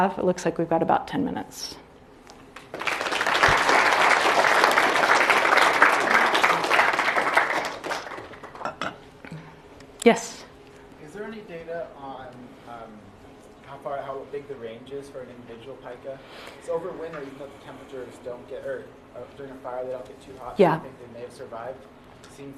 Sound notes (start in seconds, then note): 2.5 applause